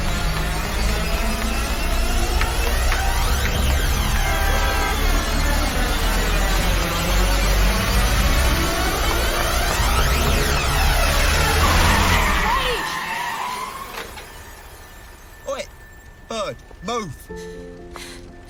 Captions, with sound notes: - WAIT! - ( tires screeching ) OI, BIRD, MOVE.